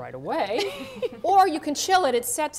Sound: laughter

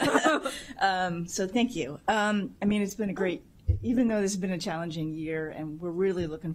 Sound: laughter

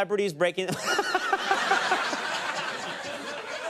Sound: laugh

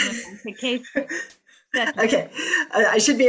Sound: laughter

